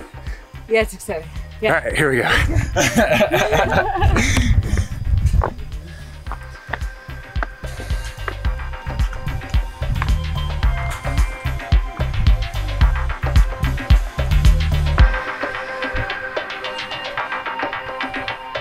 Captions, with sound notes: - Yeah it's exciting, yeah. - Alright, here we go. (laughing) (lively drum music)